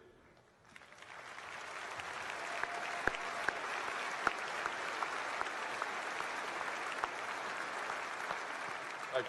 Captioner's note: applause